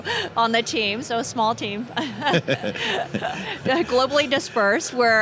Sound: laughs

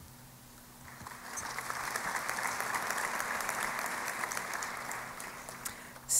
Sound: applause

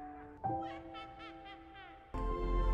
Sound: evil laugh; baby evil laugh

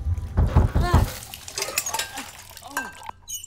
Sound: loud knocking

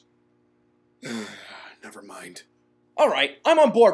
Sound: sigh

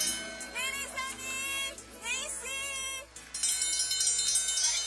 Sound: bell ringing, woman calling children over

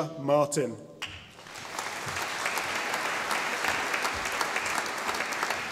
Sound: audience applauding

